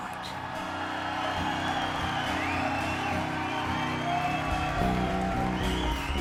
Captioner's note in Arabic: يهتف الجمهور ويصفق